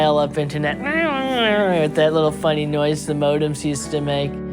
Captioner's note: imitating modem wailing